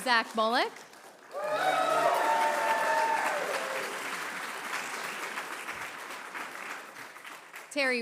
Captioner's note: applause; cheering